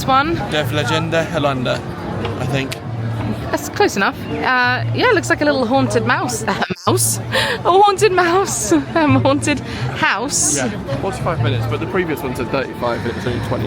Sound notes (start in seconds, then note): 6.4 laughing